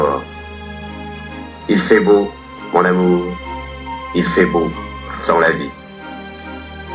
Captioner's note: voiceover of man speaking in french; voiceover of man speaking in french